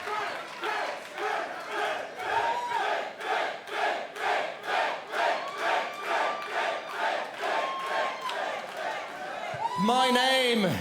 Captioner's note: fans chanting